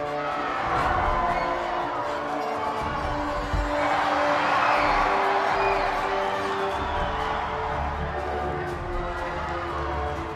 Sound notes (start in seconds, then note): 3.0 MMA Fighter thuds; 3.0 audience applauding